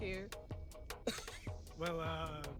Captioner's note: laughs